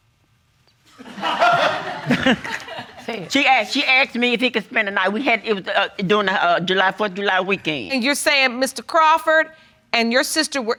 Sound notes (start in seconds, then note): 1.0 audience laughing